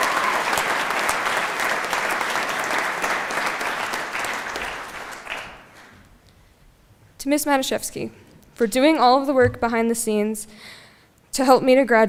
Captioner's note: applause